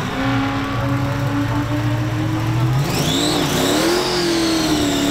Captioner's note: engine revving